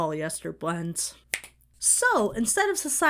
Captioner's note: Bill snaps fingers